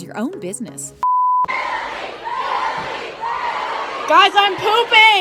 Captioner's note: chanting